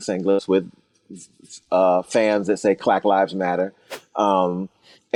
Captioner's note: whooshing sound